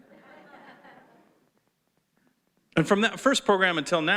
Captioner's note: audience chuckles